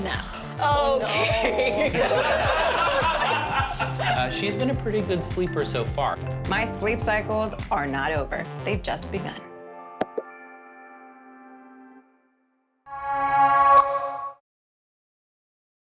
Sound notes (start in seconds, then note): 1.1 laughter